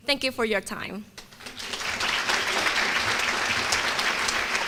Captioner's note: applause